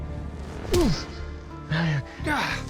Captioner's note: punch